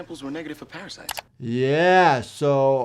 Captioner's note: mouse clicking